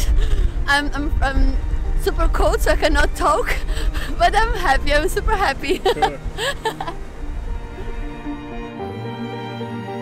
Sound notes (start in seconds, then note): 5.6 laughs